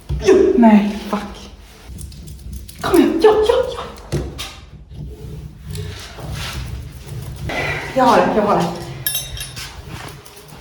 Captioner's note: angry noises